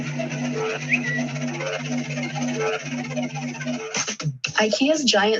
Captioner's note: Twitter notification